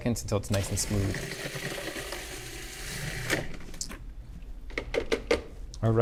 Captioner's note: processor whirring; lid tapping